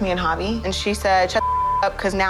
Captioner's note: beep